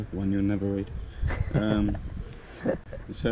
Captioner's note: laughs